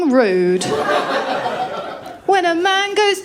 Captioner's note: laughter